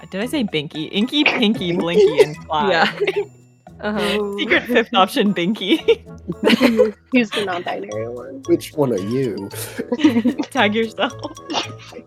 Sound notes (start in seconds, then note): 1.4 laughter; 6.2 laughter; 9.6 laughter